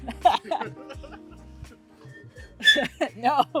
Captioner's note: uneasy Chuckle